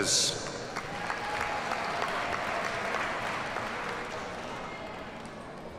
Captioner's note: audience cheers and applauds